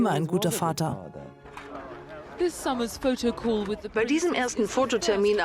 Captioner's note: voiceover